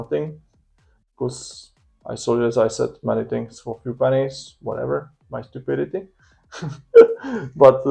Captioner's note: weird laughing